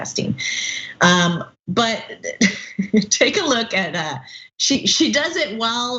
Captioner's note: laugh